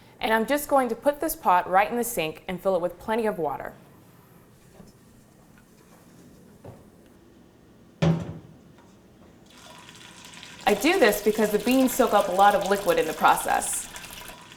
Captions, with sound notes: And I'm just going to put this pot right in the sink and fill it with plenty of water. (water running) I do this because the beans soak up a lot of liquid in the process.